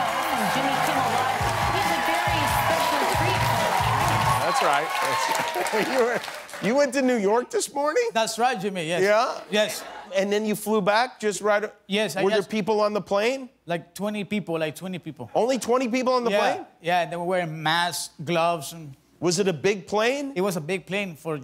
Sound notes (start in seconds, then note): 7.4 cheers and applause